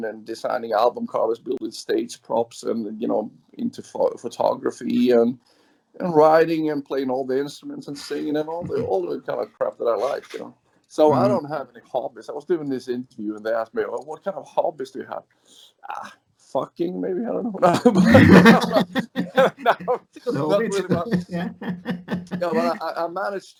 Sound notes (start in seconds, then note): 17.6 laughs